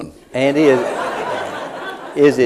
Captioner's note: laughter